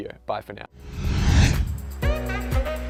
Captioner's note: whooshing; upbeat music